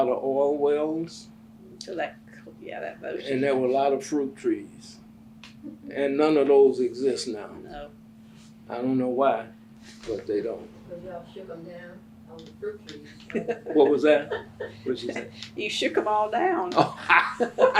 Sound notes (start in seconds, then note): 13.0 laughs